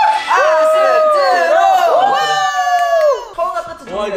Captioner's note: cheering